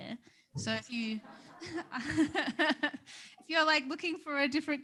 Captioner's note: all laughing